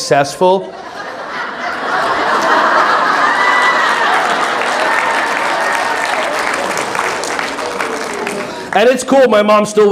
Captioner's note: audience laughing and clapping